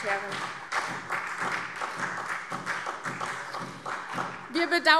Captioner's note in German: Beifall SPD und vereinzelt Freie Demokraten